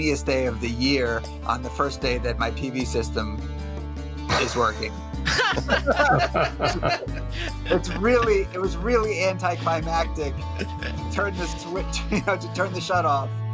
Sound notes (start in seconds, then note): 5.2 laughs